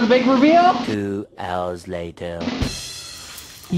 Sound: male Voice; whooshing

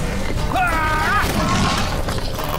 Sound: yell; shouts

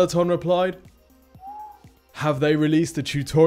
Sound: whistles

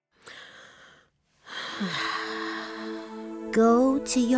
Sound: exhales deeply

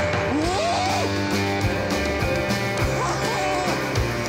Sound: laughing

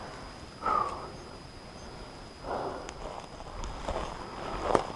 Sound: exhales; footsteps thudding

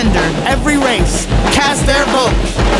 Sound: male Voice

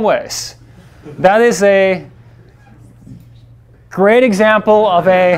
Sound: class laughs

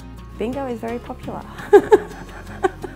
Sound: chuckles

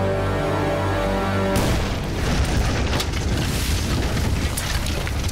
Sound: bomb blast

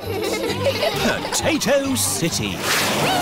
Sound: all giggling

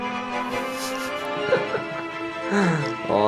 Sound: laughs

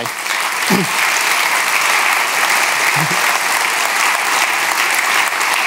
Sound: audience applauding

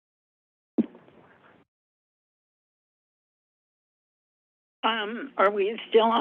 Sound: silence

